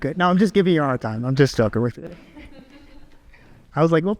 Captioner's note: audience laughs